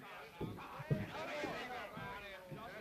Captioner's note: shouting from downstairs